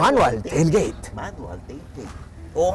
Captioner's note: whispers